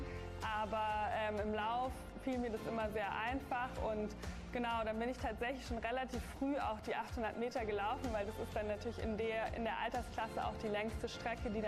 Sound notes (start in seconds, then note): none